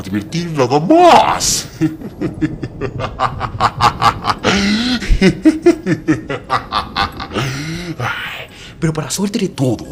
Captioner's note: laugh